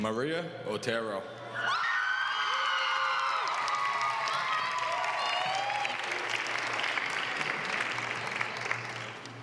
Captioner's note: applause